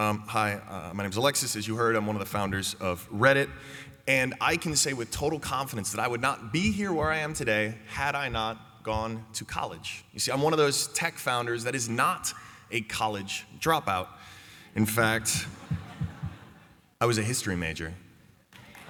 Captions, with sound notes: Ummm hi my name's Alexis as you heard, I'm one of the founders of Reddit and I can say with total confidence that I would not be here where I am today had I not gone to college. You see I'm one of those tech founders that is not a college dropout. In fact... (laughter) I was a history major.